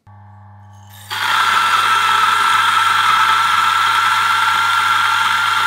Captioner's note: grinder grinding